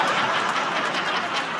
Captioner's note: laughter